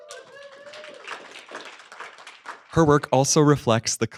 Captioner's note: applause